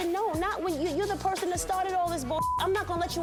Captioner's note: beep